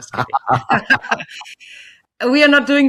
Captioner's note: laughing